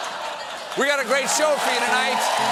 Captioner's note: laughter